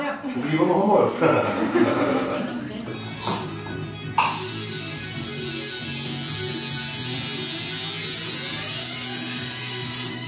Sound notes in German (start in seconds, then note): 4.1 geräusch vom tätowierstab